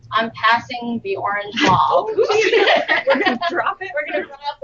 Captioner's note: laughter